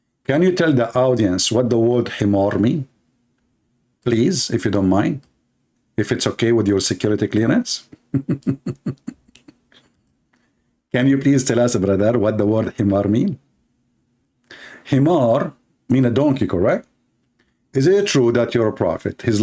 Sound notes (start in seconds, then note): 7.9 Ketawa